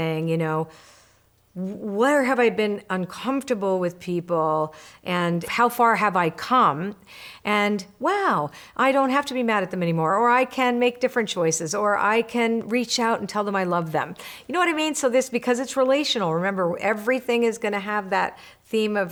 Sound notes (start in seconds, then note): none